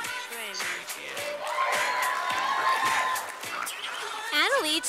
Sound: sound of cheers from audience

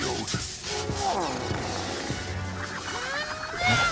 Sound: grunting

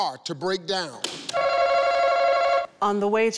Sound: buzzer rings

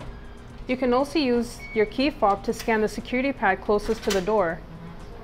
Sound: pad beeps

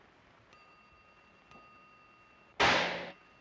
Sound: bell ringing; gun firing

